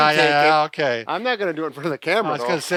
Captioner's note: laughs